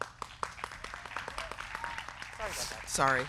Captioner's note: crowd clapping